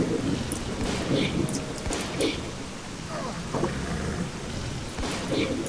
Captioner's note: Snork roars and growls, shotgun shots and heavy rain